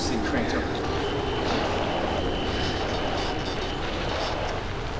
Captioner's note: static, frequencies sweeping